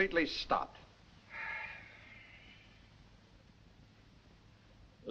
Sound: sighs

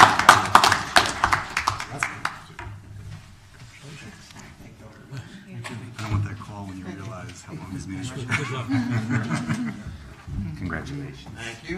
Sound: applause

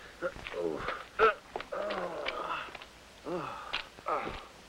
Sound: moaning

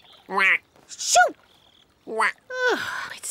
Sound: quacks; quacks

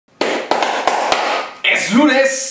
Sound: applause

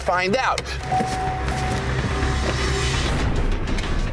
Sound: car door beeping; tense music

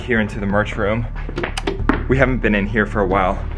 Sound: light switch click

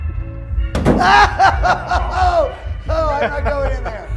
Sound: screams

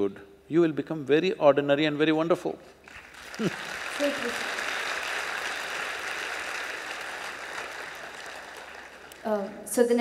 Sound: laughs/Applause

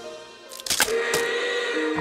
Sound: cracks

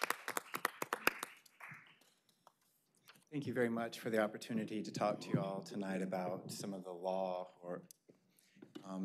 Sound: applause

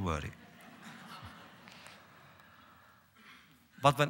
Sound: laughter

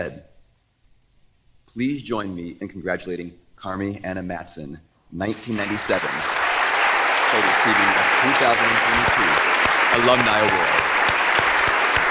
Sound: applause

